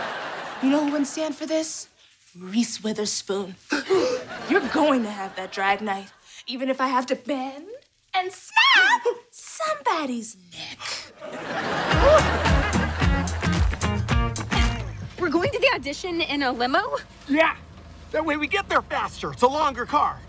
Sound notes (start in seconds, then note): 3.7 gasping